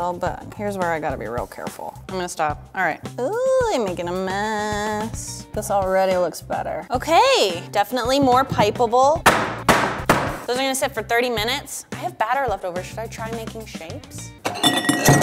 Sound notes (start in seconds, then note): 8.1 tapping